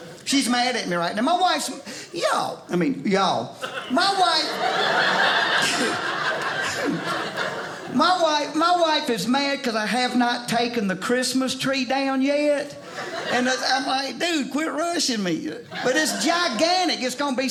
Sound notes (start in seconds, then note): 3.6 audience laughing